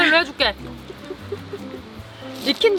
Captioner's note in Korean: 웃음